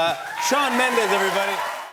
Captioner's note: cheers and applause